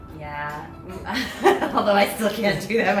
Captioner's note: laughter